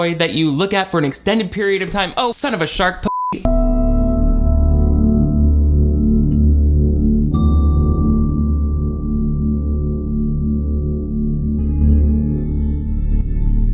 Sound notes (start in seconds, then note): 3.0 beep; 3.5 intense instrumental music; 3.6 classical piano music; 7.6 intense instrumental music continues